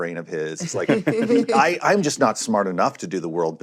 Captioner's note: laughter